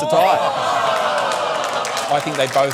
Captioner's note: all exclaim